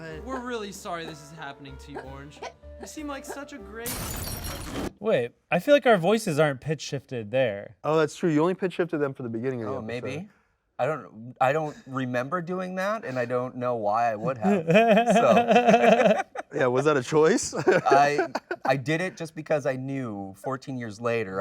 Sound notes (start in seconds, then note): 3.8 glass shattering; 14.2 all laughing